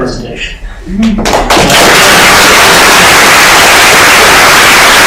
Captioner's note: applause